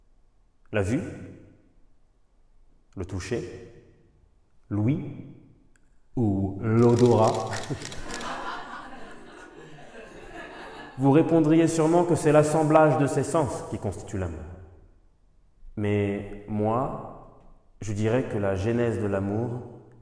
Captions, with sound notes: Sight? Touch? Sound? Or smell? [Audience laughter] You would probably say that love is the combination of all these senses. But I would say that the genesis of love